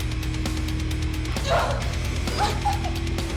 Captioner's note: Suzette lets out a grunt